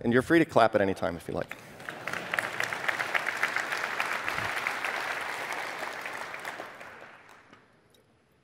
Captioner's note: applause